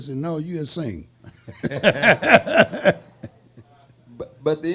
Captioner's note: laughing